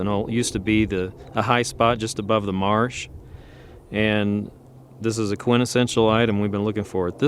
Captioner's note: wind blowing